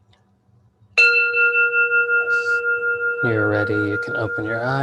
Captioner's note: bell rings